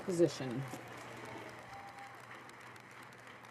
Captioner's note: speaking French